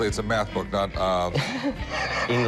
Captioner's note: laughter